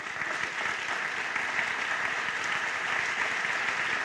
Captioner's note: applause